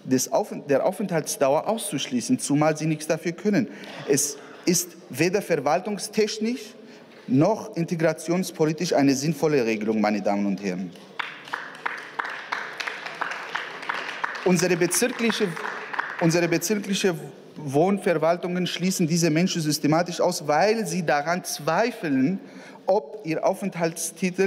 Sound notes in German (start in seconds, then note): 9.6 Beifall